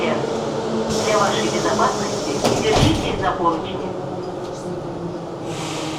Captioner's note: russian announcement